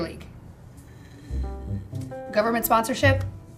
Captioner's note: uneasy groaning